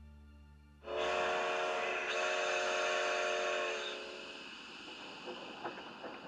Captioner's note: horn blares